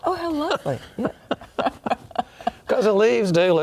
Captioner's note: both laugh